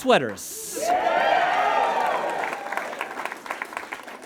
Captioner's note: audience cheers and applauds